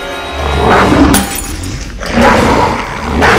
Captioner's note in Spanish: gruñendo